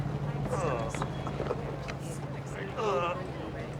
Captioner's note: Nick groaning